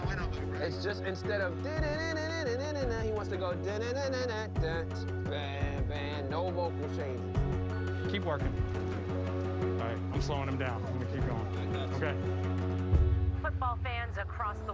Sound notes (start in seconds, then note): 3.2 hums melody; 6.6 hums different melody